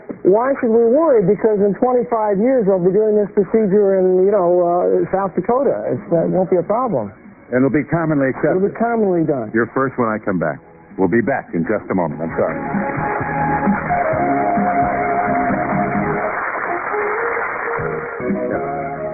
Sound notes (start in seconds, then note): 14.4 applause